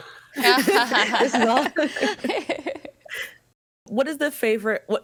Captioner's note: group laughing